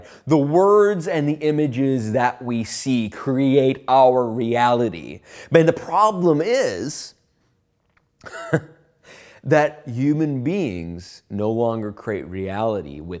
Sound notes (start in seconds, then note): 8.2 chuckling